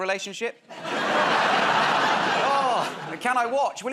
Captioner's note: laughter